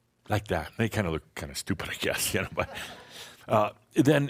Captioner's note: Adamus chuckles